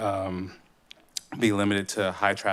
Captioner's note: smacks lips